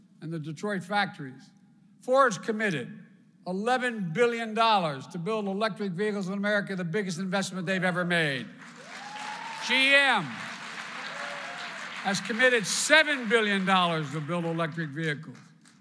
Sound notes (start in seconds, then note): 8.4 applause